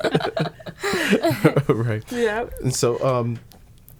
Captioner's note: laughing